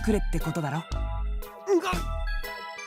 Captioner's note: gut-punch